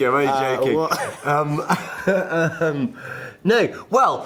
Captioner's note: laughter